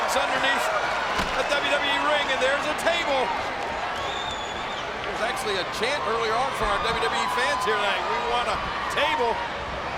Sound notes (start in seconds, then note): 4.2 spectators cheering